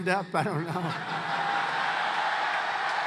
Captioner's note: laughs